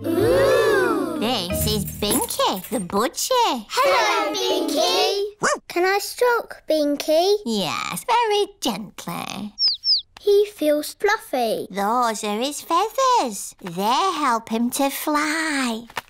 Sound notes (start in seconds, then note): 9.6 chirping